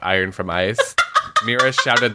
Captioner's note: laughs